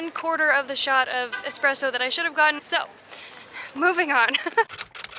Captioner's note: laughter